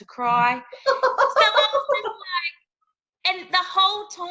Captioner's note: laughing